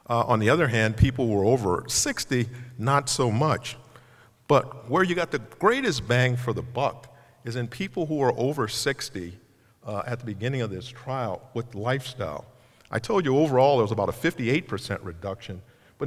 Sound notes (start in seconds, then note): none